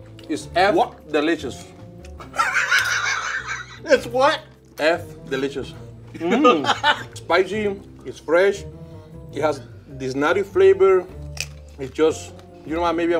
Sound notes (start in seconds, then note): 2.2 laughs